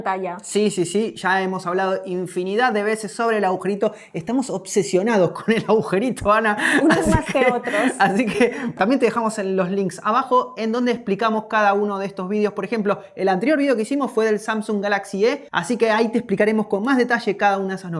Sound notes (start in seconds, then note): 6.6 laughs